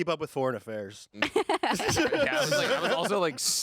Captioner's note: group laughing